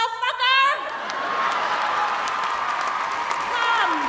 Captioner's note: audience applauding